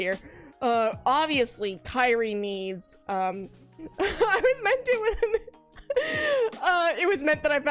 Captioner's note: laughs